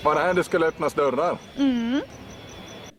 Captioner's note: mmmmm